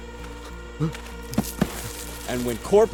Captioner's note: groaning